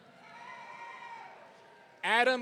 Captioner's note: audience cheering